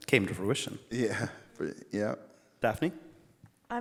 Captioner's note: laughs